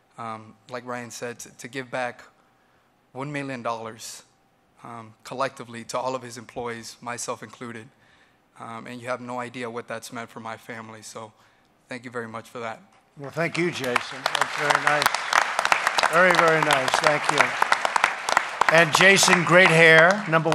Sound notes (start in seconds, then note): 13.2 applause